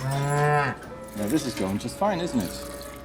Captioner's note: cow moos